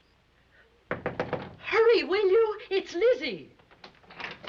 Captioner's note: knocking